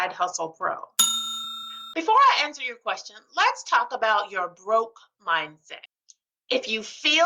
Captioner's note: bell ding